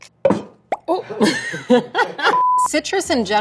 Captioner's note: laughs